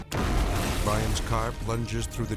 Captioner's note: charges explode